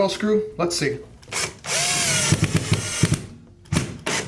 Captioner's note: drilling